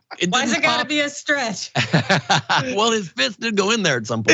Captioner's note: laugh